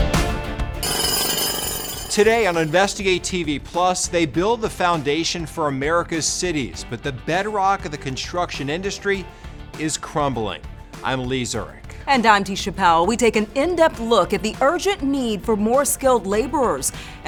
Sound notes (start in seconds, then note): 0.8 jack hammer screaming